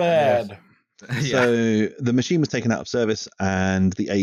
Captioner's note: laughs